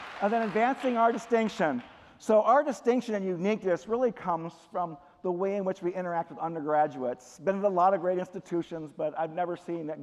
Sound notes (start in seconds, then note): 2.1 applause